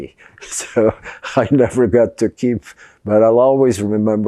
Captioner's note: laughing